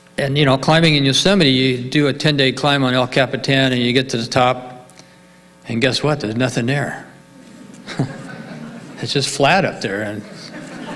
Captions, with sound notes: And climbing in Yosemite, you do a 10 day climb on El Capitan and you get to the top, and guess what? There's nothing there. (audience laughing) It's just flat up there.